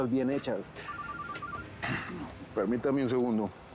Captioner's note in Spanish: Suena el celular